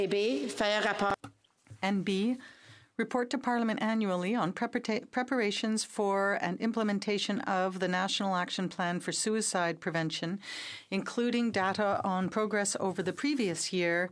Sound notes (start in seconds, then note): 3.6 speaking French